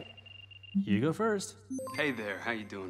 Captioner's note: system beeps